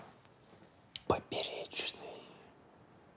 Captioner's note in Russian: шепчет